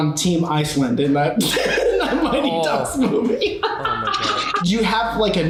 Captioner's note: laughs